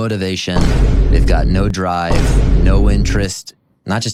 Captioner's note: boom; vine boom x2